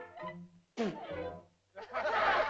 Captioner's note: child spits; laughter